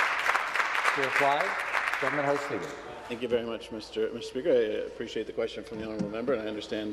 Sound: some Applause

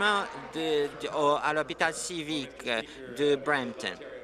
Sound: applause

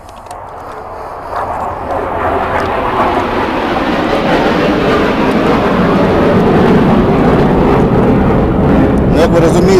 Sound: sound of fighter engine

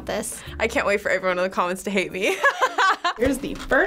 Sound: laughs

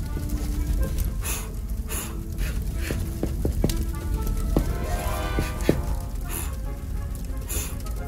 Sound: blowing air

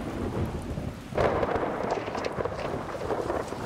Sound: thunder Crashing

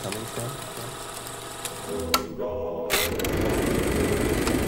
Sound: projector clicking

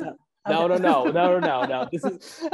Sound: laughs

